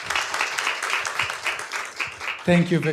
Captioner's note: audience applauds